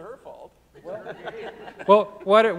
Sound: audience chuckling

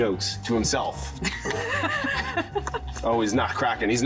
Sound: both laughing

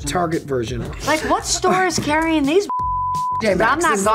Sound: beep

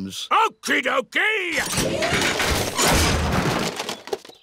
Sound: none

